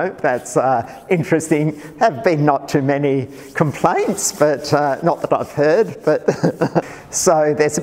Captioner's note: laughs